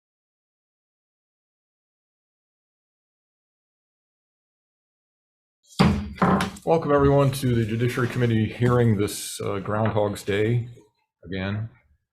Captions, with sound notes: (gavel banging) - Welcome everyone to the Judiciary Committee hearing this Groundhogs' Day, again.